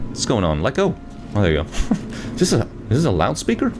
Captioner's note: chuckles